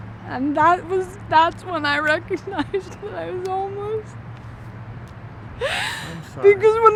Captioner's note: crying